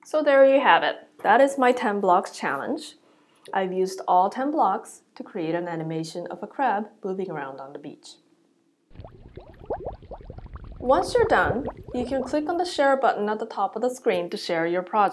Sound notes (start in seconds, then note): 8.9 bubbling sound